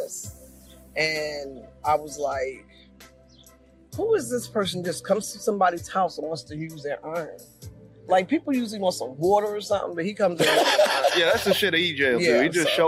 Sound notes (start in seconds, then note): 10.4 laughing